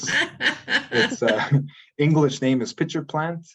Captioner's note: laughs